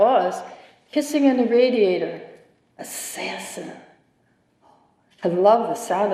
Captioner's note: whispering